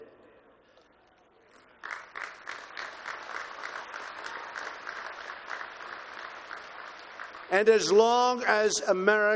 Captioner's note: applause